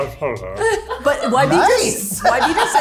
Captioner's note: laughs